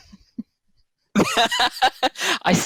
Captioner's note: laughing